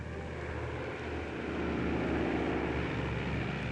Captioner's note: airplane whirring